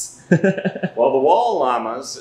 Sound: man laughing

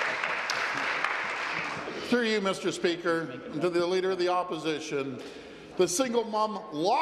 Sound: applause

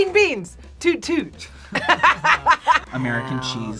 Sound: both laugh

